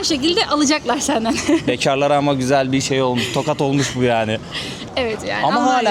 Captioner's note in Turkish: kahkaha